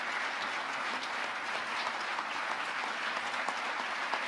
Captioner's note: speaking off mic